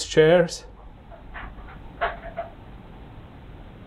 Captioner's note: sound from the kitchen